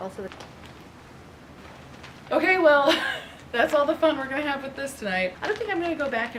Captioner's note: laughs